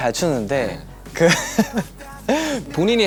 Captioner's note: haha